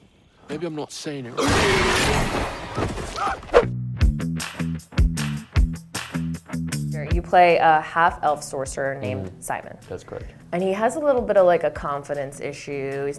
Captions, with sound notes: - Maybe I'm not saying it... (monster roars) (upbeat music) - You play a half Elf Sorcerer named Simon. - That's correct. - And he has a little bit of like a confidence issue.